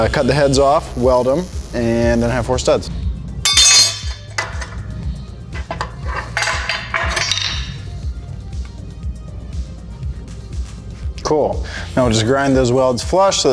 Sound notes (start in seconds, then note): 3.4 metal clanging